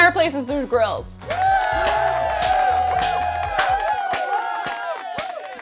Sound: people cheering

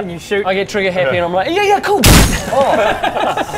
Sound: bang!

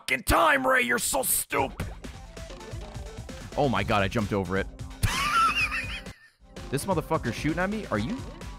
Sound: laughs

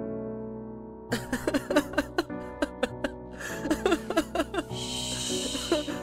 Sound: sobbing; continues Sobbing

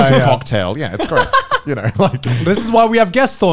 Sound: laughing

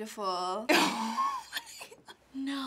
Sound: snickering

